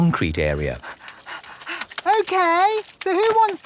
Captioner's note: panting